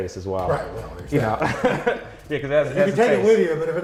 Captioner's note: laughs